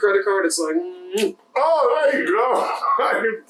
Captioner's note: chef’s kiss